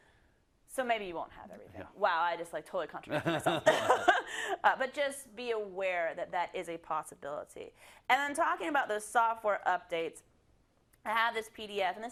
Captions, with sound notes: maybe you won't have everything. -Yeah. -Wow, I just like totally contradicted myself. [LAUGH] But just be aware that that is a possibility. And I'm talking about the software updates, I have this PDF, and